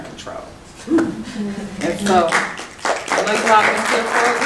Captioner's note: clapping